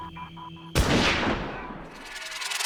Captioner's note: gunshot